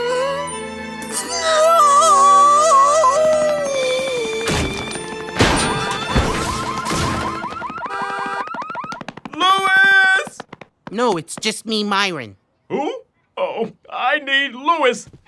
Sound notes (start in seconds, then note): 4.5 car alarms blare